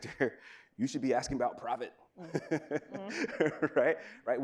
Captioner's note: laughs